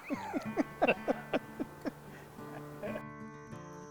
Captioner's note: laughing